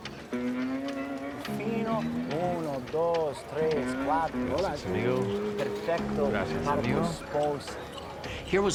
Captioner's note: speaking spanish